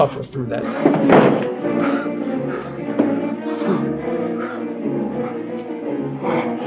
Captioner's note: dramatic music; moaning